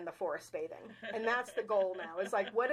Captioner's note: chuckling